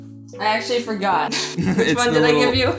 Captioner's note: laugh